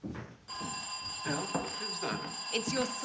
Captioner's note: ringing